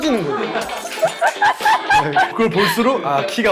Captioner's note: burst into laughter